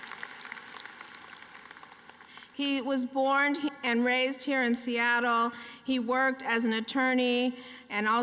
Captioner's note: applause